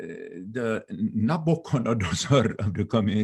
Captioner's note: speaking in foreign language